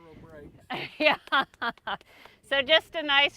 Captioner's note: laughing